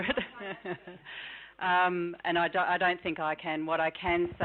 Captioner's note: laughing